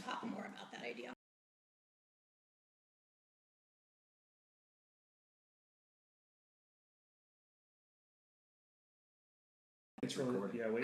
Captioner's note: recording pauses for 10 seconds